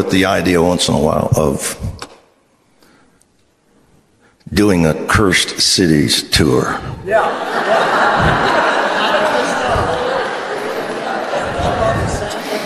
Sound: congregation laughs

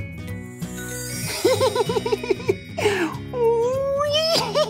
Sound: laughing loudly

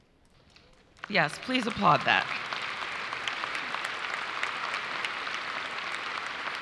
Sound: audience applauds

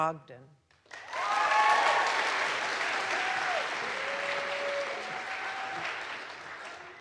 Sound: audience applauds; audience cheers

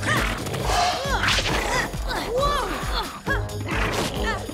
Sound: grunting

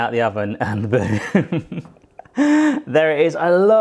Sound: chuckling

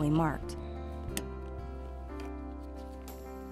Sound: click

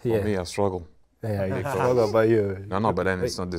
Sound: group giggle

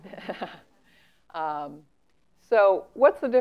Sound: laugh

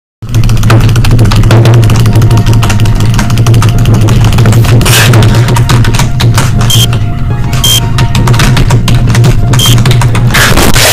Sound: angry solitaire noises

